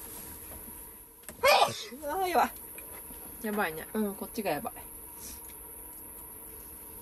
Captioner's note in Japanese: くしゃみ